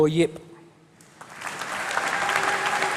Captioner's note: applause